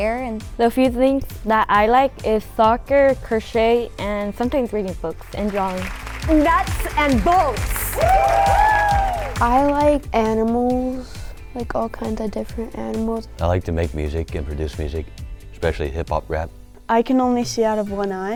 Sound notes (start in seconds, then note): 5.2 crowd clapping; 8.2 crowd cheering